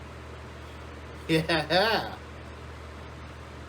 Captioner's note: Ella laughs